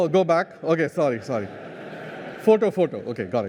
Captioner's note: laughter